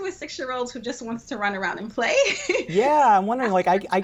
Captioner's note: laughs